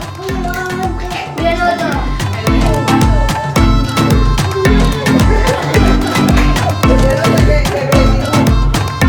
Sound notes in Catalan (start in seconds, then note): 2.2 castellà; 5.4 riures